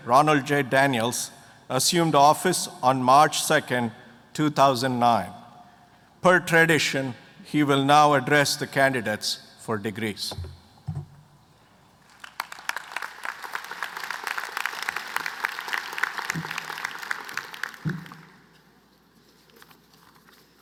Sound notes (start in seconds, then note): 12.0 applause